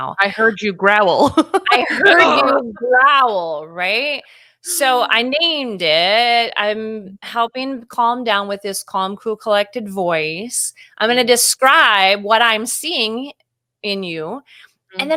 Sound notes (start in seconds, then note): 1.6 laughing; 2.1 growling